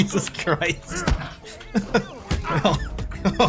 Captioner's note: laughter